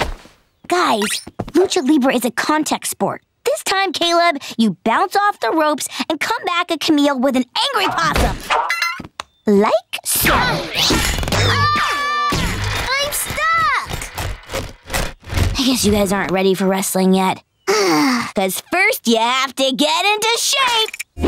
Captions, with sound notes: Guys, Lucha Libre is a contact sport. This time, Caleb, you bounce off the ropes and come back at Camille with an angry possum! Like so. [screaming] I'm stuck! I guess you guys aren't ready for wrestling yet. [sighing] Cause first you have to get into shape!